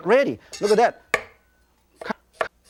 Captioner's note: taps knife on table